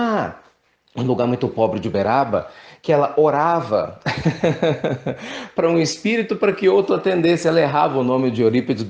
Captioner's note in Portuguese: risadas